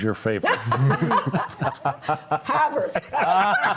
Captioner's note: panelists laughing